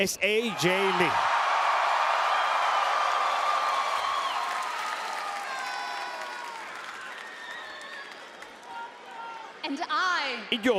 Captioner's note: applause